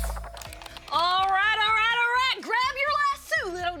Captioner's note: american accent